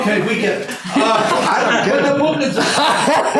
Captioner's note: laughing